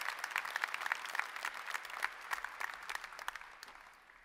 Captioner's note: applause